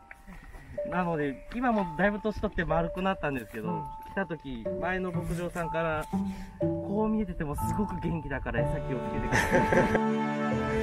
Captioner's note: laughs